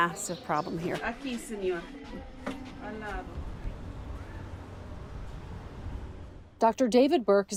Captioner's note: doctor speaking in foreign language